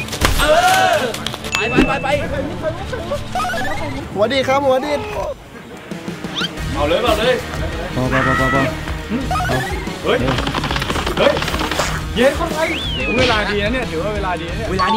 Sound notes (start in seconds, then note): 9.4 footsteps